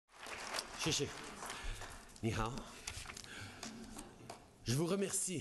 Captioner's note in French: Applaudissements